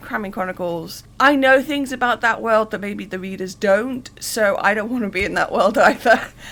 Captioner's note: laughing